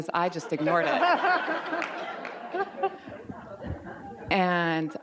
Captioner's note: audience laughs